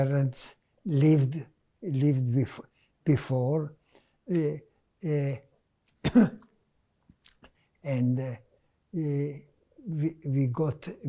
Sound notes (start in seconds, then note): 6.0 coughing